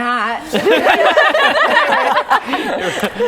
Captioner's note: laughing